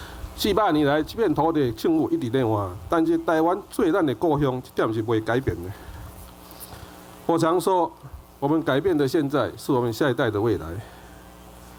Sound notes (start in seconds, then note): 0.3 Taiwanese